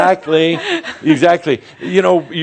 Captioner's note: she chuckles